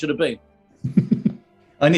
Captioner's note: chuckling